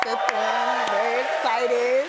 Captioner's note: cheers and applause